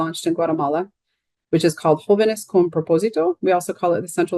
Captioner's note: speaking in Spanish